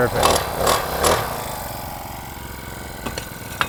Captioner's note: engine revs